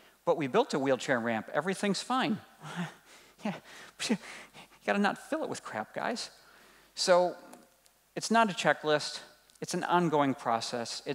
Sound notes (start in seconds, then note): 2.6 sighing